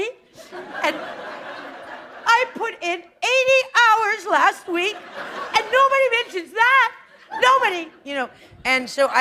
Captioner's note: laughter